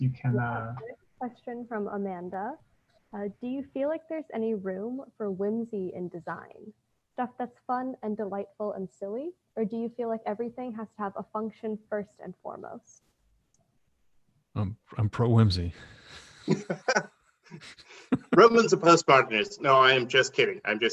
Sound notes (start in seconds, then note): 16.1 laughing